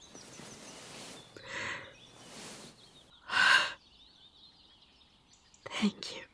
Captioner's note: rustling as listener hugs her again